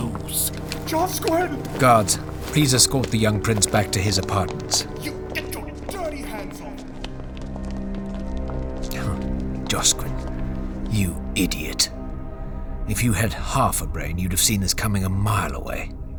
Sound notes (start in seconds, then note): 0.9 crying; 7.3 Footsteps of Josquin and several guards